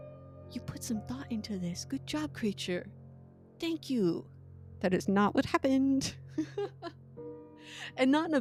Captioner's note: laughs